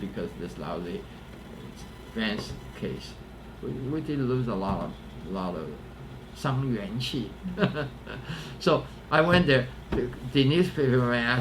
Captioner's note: laughs